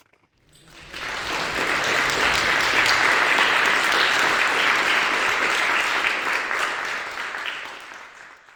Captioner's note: applause